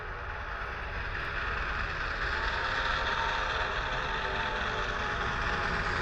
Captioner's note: train noise and whistle